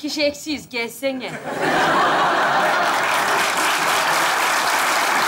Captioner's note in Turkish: Kahkaha ve alkış sesleri